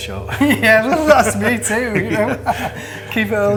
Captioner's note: laughing